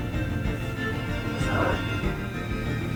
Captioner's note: whispering